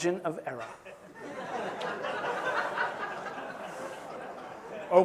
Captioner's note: laughter